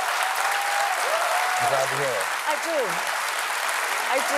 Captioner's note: cheers and applause